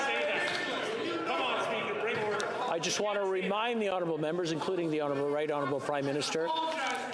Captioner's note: yelling